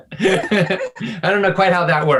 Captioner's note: both laugh